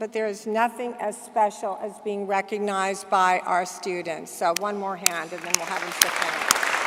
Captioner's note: applause